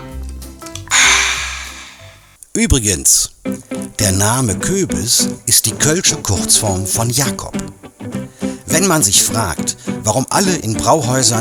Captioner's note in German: seufzt